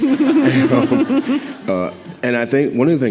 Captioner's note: audience laughing